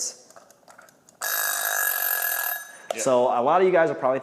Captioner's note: timer rings